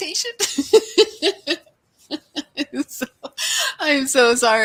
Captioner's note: laughs